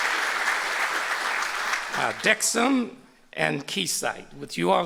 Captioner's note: applause